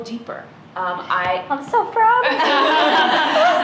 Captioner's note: laughter